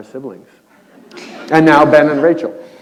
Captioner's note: laughter